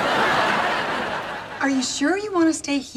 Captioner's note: laughs